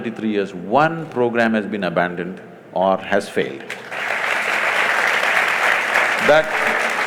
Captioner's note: applause